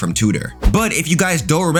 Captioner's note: air whooshing